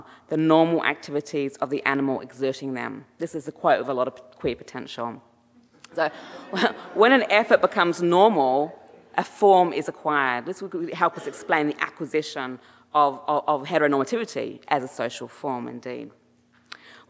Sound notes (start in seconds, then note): 5.8 chuckles; 5.9 audience laughing